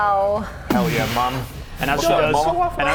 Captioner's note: boosh!